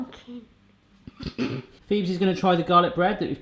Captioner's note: snorts